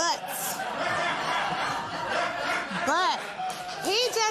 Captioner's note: laughter